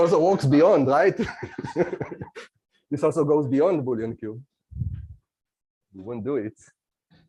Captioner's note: laughs